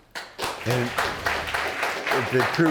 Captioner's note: all applauding